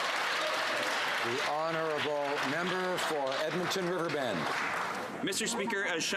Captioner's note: some Applause